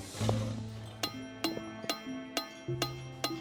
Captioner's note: glass clicking